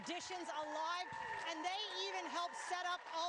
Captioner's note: applause